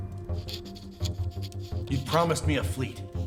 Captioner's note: quill scraping